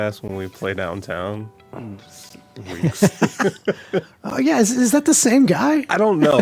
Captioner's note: both laugh